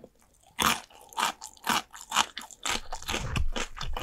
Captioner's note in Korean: 아삭아삭